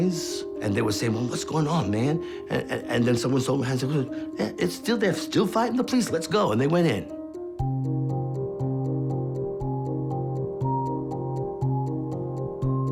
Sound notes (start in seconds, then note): 3.6 stammering